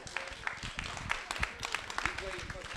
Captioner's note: applause